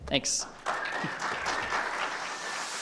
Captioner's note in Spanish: aplausos